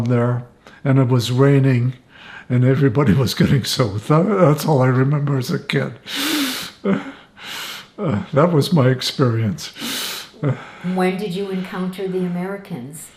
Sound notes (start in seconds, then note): 6.8 laughing